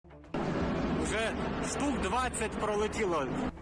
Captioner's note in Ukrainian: Звуки гелікоптерів